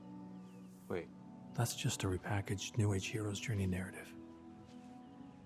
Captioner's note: narrating